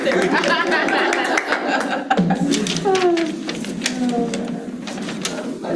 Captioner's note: participants laughing and clapping